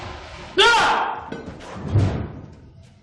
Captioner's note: screams